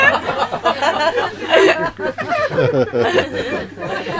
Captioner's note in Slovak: Smiech